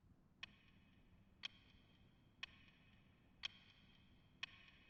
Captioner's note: clock ticking